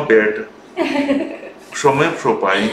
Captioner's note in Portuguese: risos